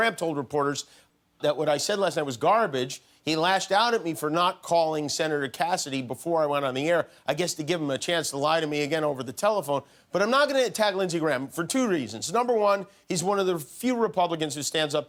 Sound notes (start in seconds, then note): none